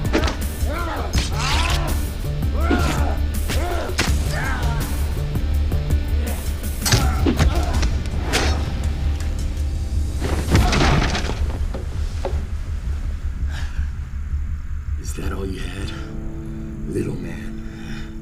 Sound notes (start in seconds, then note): 6.9 thudding; 10.3 clattering